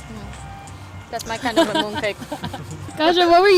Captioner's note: laughter